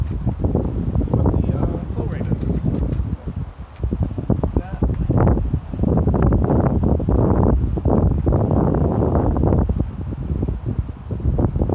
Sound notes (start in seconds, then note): 3.6 wind blowing in microphone